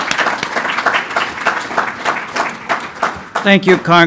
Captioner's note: applause